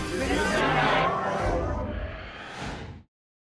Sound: whoosh

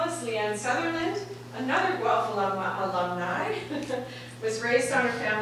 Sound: laughing

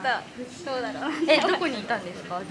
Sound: laughs

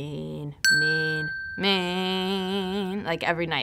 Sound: ding

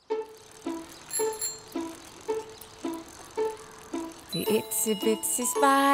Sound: bell rings

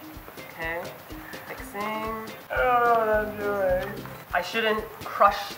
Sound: mumbled whimper

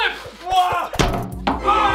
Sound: clank

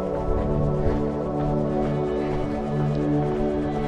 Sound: panting

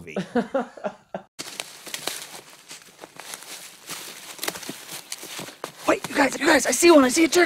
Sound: interviewer laughing; undergrowth crackling under foot

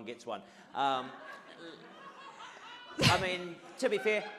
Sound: audience laughs

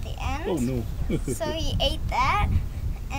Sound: chuckles

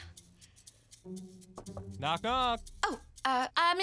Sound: knocking

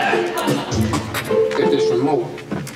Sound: spitting

